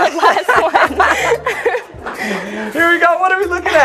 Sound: laughter

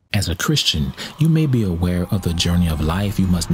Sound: voiceover

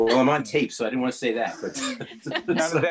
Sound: laughing

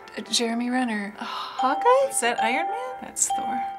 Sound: sighing

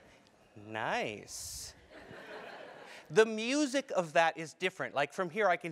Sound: laugh

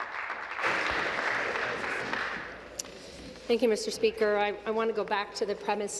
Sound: applause

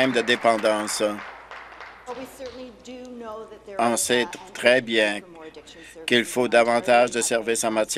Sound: applause

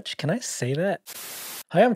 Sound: static scratching

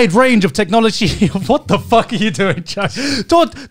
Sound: laughing

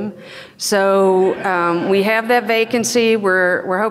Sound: audience laughs

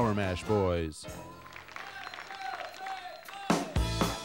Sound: audience applauding; lively country music

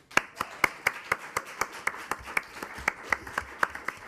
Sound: attendees clapping

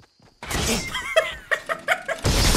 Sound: Dunkey laughing; intense music

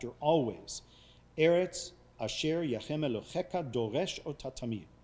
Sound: speaking foreign language

